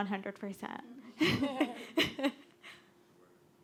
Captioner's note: laughter